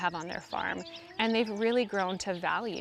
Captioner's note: birds singing